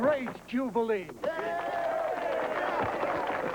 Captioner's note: crowd cheering